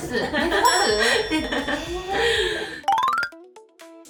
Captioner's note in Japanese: 笑い